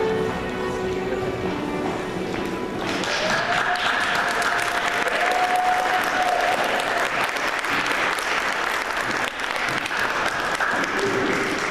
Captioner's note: applause